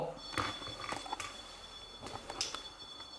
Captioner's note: The sound of the choco-pie